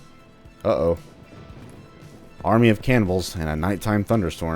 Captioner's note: thunderclap